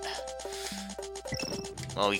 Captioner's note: inhaling